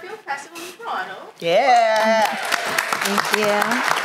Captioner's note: applause